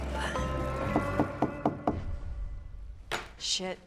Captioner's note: knocking